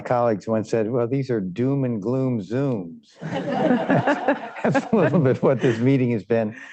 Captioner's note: laughter